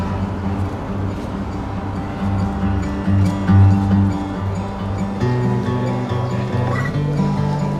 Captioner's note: city sounds